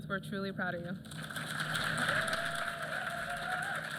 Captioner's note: applause